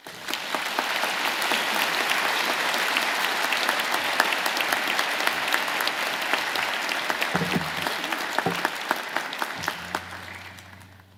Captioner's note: applause